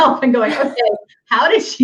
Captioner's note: laughs